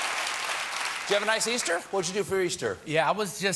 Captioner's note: cheers and applause